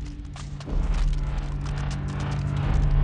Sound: bone crackling

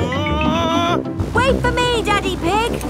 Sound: screaming

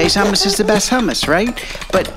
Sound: scoffs

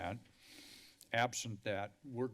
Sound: inhales

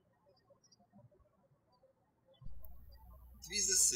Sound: birds chirping

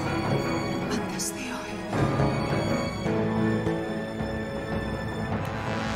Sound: woman speaking in Greek

